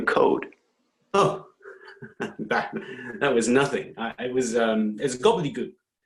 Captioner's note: laughs